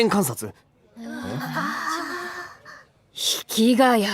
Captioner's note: groans